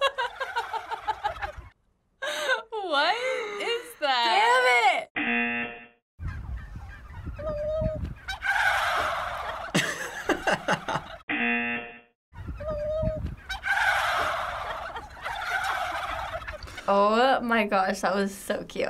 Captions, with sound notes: - What is that? - Damn it. (buzzer) - (imitates turkey call) (turkeys gobbling) (buzzer) - (imitates turkey call) (turkeys gobbling) - Oh my gosh, that was so cute.